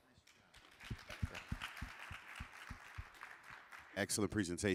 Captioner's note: crowd applauding